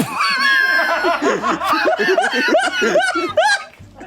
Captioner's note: everybody laughs